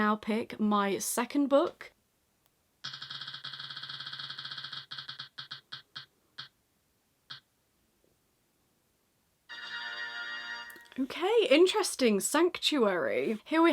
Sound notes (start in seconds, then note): 4.6 wheel spinning